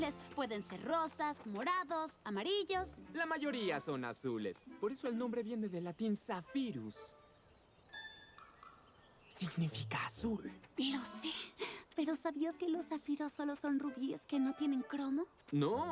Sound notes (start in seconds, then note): 9.3 whispers